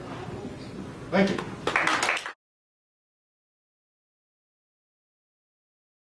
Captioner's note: clapping